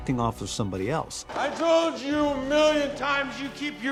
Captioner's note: slurring